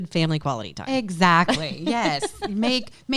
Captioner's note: laughs loudly